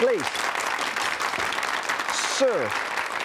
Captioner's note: applause